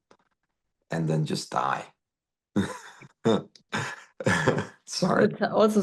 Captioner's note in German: lacht